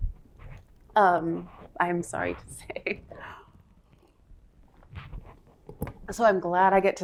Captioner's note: laughter